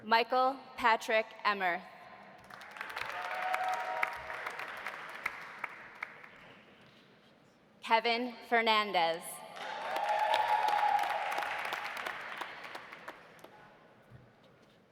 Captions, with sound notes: Michael Patrick Emmerth. (audience applauding) (audience cheering) Kevin Fernandez. (audience applauding) (audience cheering)